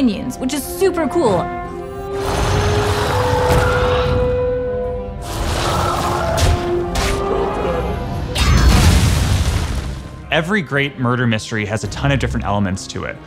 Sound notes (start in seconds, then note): 2.2 Stonebound Gargon snarls; 8.7 wail